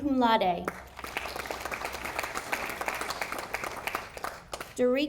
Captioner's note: audience applauding